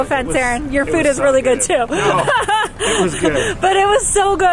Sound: laughs

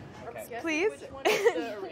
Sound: laughs

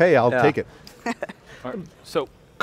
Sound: laughs

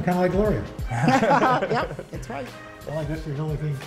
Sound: laughter

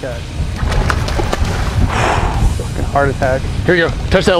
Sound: tarpon splashing; exhales deeply

